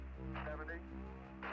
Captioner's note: static crackling